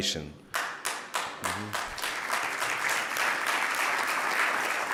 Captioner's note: audience clapping